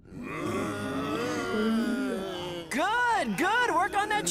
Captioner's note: groaning